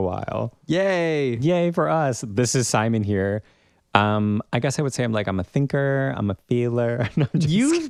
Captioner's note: laugh